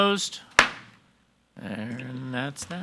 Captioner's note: gavel bangs